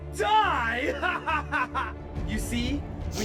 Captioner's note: laughs